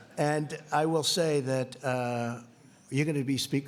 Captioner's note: laughing